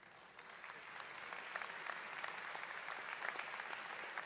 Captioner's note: applause